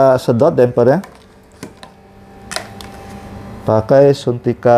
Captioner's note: damper noise